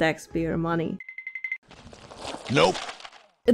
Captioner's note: cartoon running sounds